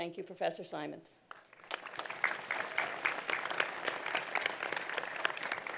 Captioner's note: applause